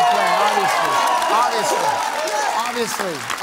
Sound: applause

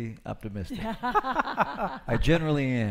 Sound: laughing

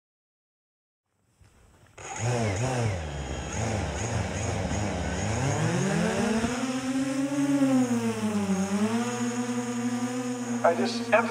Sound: drone taking off

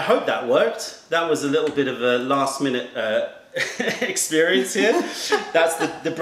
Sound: laughter

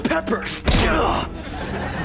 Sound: grunting

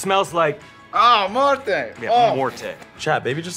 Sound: speaking Italian; speaking foreign language

